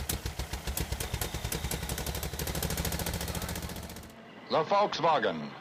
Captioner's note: car engine rumbling